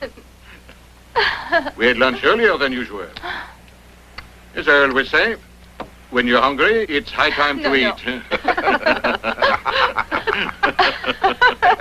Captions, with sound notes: >> We had lunch earlier than usual. As I aways say, when you're hungry, it's high time to eat. (laughing)